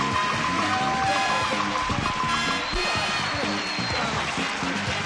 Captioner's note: indistinct conversation